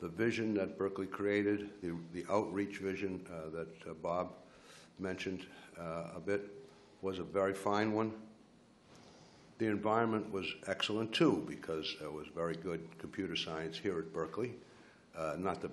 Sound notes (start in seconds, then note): none